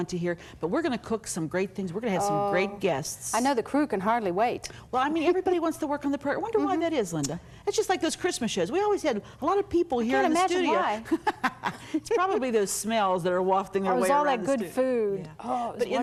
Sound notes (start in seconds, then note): 11.0 chuckles